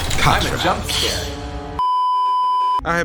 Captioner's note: hiss; beeeeeeeeeeeep